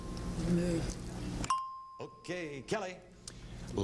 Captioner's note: ding